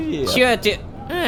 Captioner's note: screamer